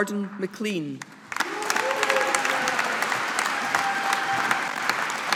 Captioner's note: audience applauding